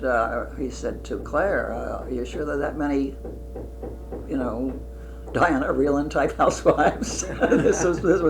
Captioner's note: laughter